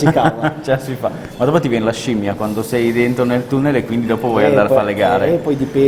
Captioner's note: laughing